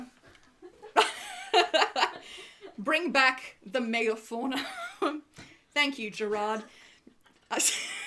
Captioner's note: laughs